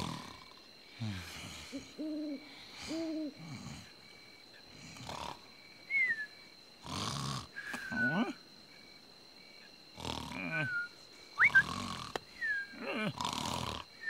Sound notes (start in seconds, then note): 6.8 pig 1 snores; 9.9 silly Noises